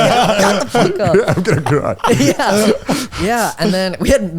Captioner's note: all laughing